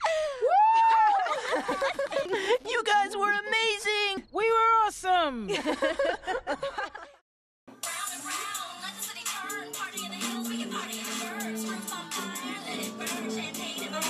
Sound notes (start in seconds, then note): 5.5 laughing